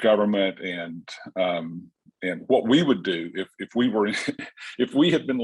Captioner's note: chuckles